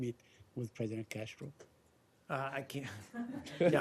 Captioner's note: laughter